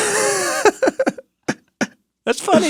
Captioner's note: laughs